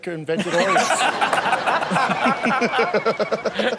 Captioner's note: all laugh